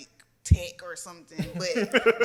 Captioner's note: laughs